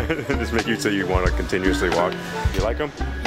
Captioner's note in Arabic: يضحك